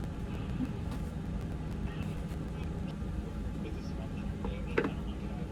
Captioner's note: TV running in the background